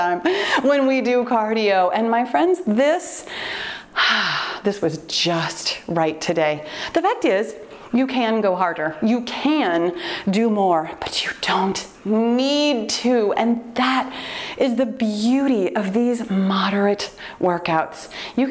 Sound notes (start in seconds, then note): 3.3 loud exhale